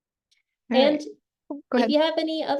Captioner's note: faintly speaking